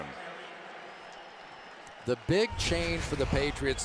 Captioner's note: pa announcement